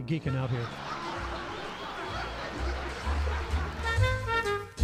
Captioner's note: laughter; big band swing music